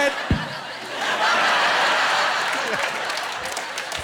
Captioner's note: thumping